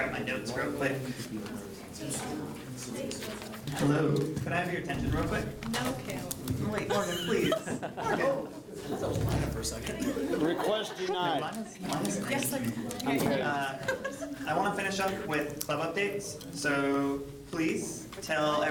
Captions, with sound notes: Let me grab my notes real quick. >> Can I have your attention real quick? (crowd talking) I want to finish up with club updates so please tell